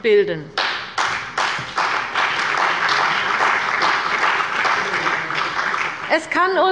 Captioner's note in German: Beifall bei der CDU und dem BÜNDNIS 90/DIE GRÜNEN